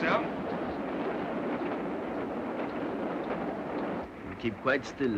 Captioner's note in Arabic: هدير القطار